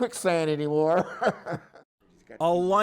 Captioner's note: laughter